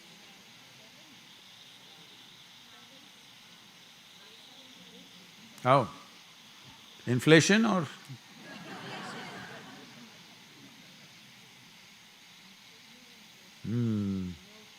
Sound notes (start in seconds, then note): 8.3 laughter